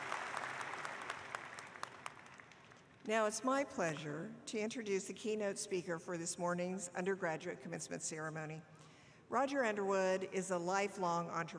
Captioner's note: applause